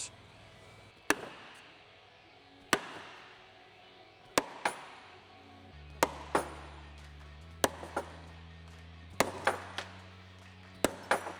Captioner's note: hammering